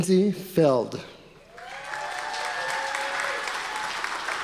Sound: audience applause

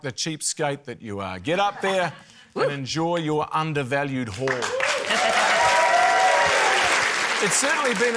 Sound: cheering, applause

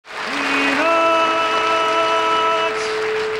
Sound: audience applauding

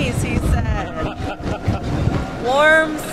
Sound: laughter

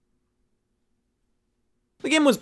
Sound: none

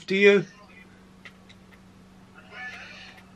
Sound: awkward silence

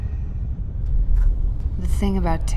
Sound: door unlatching

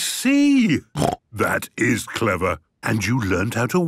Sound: snort

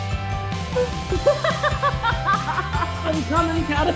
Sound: laughing

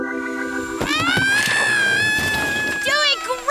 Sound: crashing; screaming

